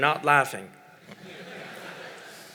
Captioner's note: laughter